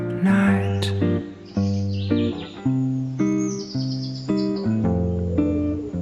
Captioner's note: what-time-do-you-call-this birdsong